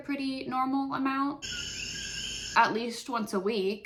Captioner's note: coqui frogs